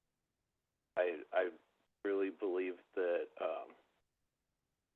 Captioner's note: by phone